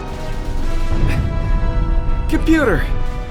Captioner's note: muffled explosion